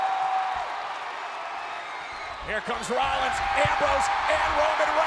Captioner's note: applause